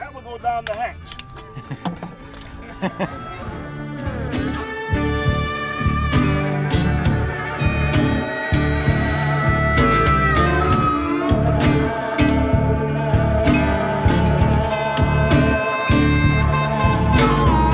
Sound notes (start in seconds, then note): 1.3 camera operator laughs; 4.1 soulful music